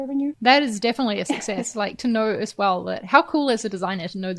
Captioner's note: chuckles